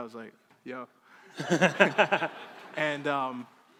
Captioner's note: crowd laughing